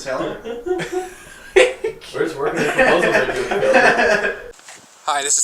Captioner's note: they all laugh